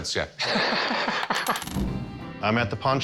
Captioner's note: laughs; coin clatters